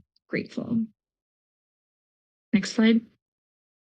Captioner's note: pause